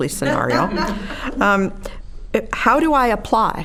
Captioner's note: all laughing